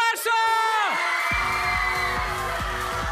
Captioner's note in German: Jubel, Applaus